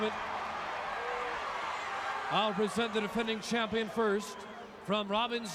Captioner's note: applause